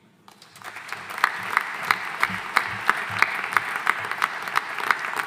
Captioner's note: audience applauding